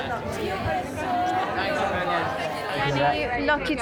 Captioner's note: talking in unison